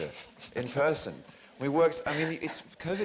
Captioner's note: chuckles